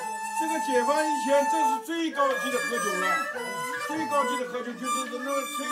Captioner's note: speaks in Chinese language